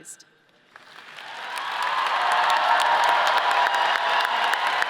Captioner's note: audience cheers